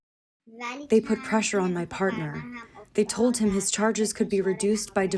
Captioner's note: through translator